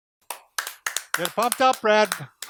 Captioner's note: clapping